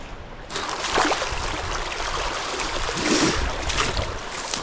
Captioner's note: water splashing